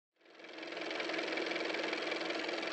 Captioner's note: car motor